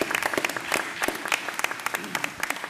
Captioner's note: applause